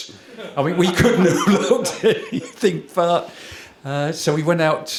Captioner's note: laughter